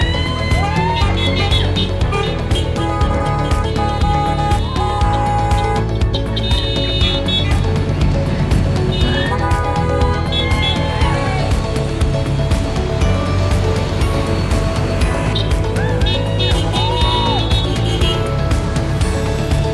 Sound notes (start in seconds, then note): 0.0 crowd cheering; 3.0 horns honking; 10.7 crowd cheering; 16.3 crowd cheering